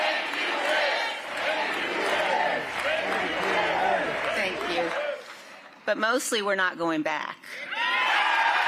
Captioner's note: crowd chanting